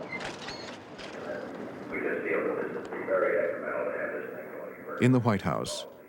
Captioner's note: tapes of conversations playing faintly